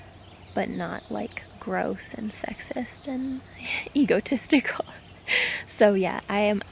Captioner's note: laughs